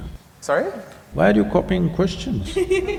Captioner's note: laughter